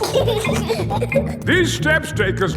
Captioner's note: giggling